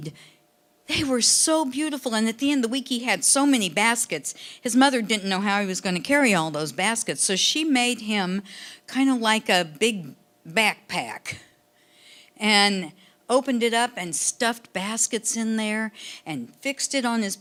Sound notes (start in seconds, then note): none